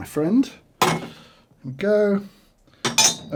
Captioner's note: cup clinks